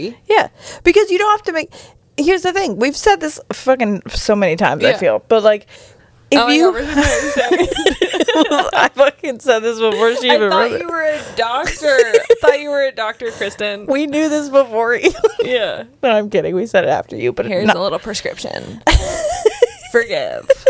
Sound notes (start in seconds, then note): 6.8 panel laughing